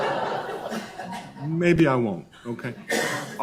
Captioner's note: laughs